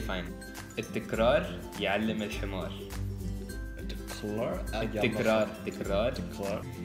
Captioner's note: Arabic